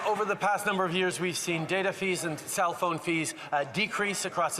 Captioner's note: some Applause